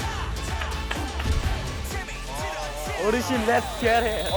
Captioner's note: through the audience's energetic cheer